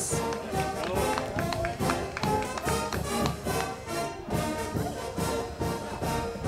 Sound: crowd clapping; band music

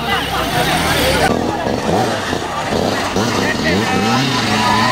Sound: motors rev

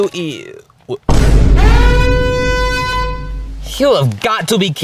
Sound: ominous alarm baring

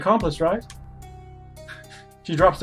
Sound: laughs softly

